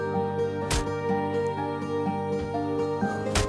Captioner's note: hammer impact